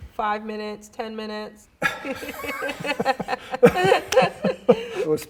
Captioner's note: both laugh